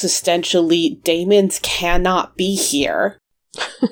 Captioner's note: laughs